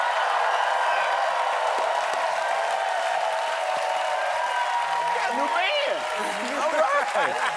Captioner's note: cheers and applause